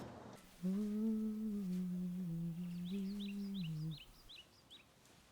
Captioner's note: humming